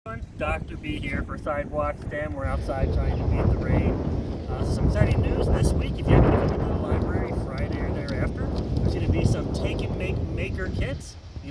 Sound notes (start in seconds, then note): 0.0 windy background noise